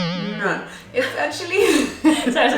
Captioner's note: unfortunate sound plays